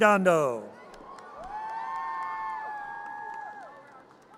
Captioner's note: audience cheers